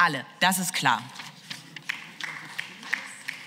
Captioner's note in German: Beifall